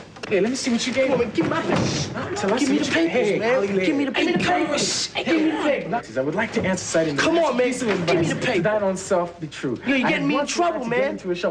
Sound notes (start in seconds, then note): 4.7 shushing